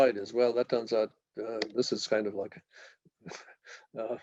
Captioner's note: chuckle